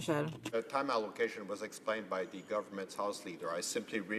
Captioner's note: speaking French